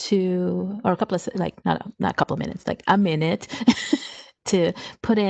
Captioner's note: chuckles